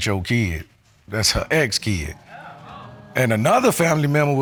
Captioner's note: audience exclaims